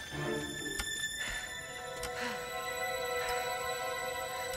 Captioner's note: panting